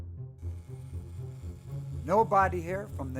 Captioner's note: trimmer whirring